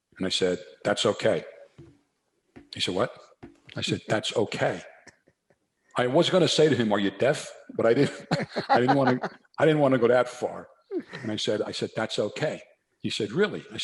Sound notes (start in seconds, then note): 7.8 chuckles